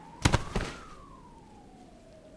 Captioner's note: body thud